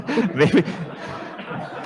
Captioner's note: chuckles; laughter